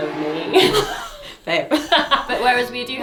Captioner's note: pair laughs